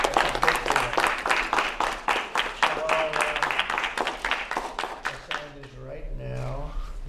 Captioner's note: applause